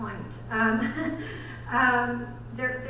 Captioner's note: laughs